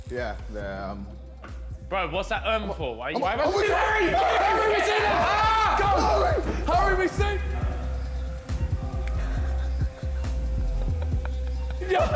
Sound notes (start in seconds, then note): 3.2 JJ yells; 5.3 men yell; 9.1 Vikk laughs; 11.6 men yell